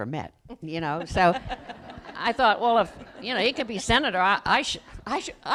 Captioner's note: laughter